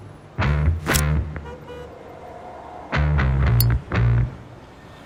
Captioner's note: cigar cutter flicking